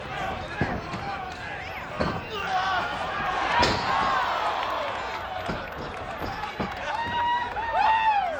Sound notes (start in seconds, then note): 4.2 audience applauds and cheers